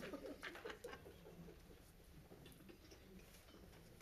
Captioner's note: laughs